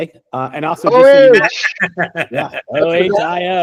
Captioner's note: laughing